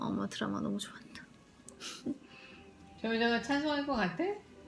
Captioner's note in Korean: 엄마가 드라마 보면서 웃는 소리